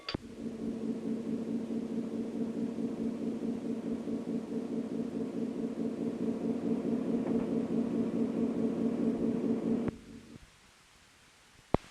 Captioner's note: bell Sound; sound of train moving